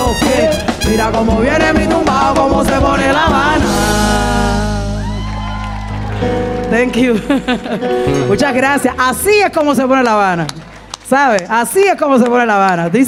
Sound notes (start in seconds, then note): 4.7 audience cheering; 7.9 speaking in Spanish